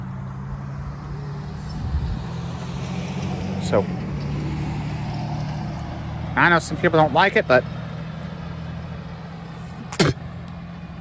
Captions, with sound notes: Some people don't like it so... [Ava spits on the ground]